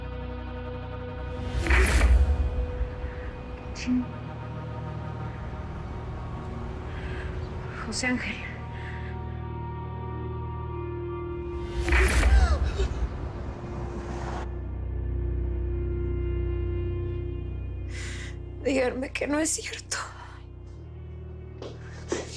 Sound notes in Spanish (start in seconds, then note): 12.0 Sollozos